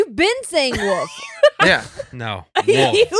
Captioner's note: laughing